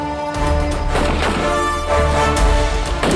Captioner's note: guns firing